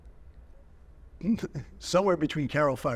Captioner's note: chuckling